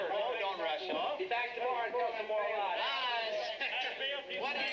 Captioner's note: men chattering